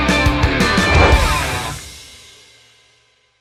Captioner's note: swoosh